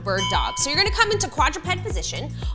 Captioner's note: bell chimes